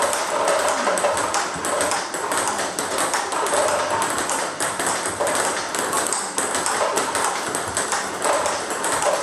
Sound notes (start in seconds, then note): 0.0 ball ping pong hitting continues